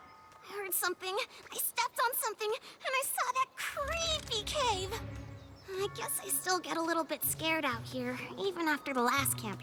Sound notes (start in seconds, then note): 3.8 rattling